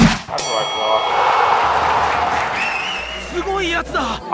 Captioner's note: crowd roars